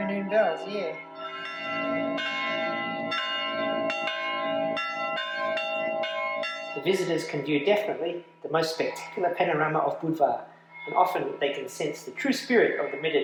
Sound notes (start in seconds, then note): 2.1 bells clanging loudly